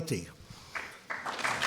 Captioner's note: applause